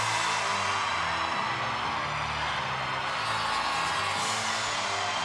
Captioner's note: audience cheering